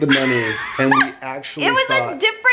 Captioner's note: laughs